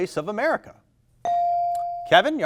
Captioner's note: buzzer chimes